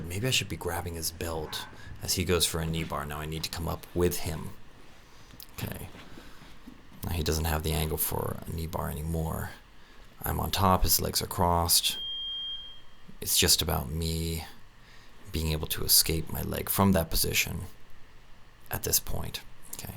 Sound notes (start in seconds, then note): 12.0 beep